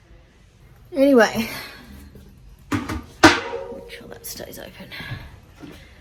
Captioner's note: metal bucket clangs